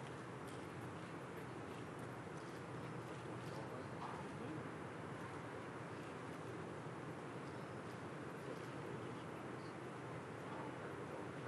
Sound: applause

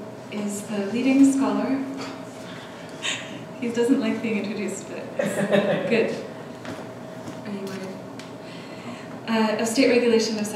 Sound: laughs

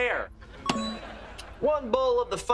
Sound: beeping

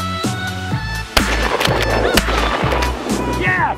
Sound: gunshots

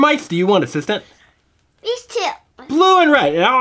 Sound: voiceover

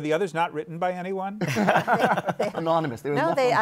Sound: laughter

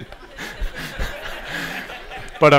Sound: laughter

